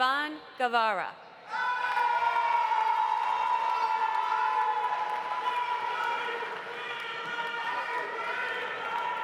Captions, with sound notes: Rayvon Guevara. (audience applauding) (audience cheering)